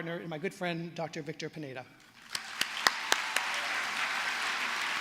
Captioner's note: applause